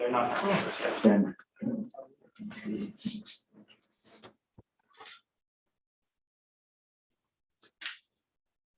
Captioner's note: indistinct conversation